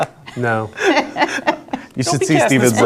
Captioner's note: laughing